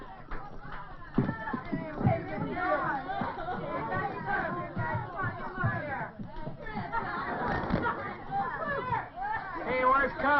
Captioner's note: excited chattering